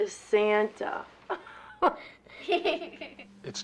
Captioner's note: all laugh